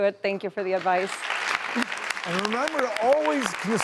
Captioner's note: audience applauds